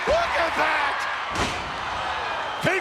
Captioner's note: body thuds